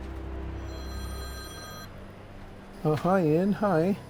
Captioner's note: phone rings